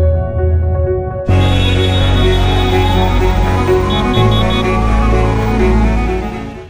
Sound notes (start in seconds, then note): 1.2 honking; 2.8 sirens